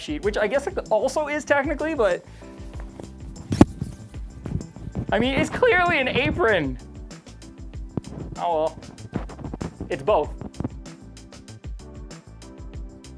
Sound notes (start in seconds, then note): 2.4 apron rustling; 10.5 upbeat music